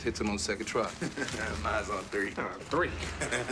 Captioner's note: laughs